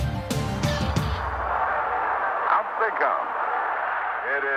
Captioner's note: crowd cheering